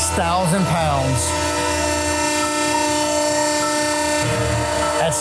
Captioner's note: machine whirring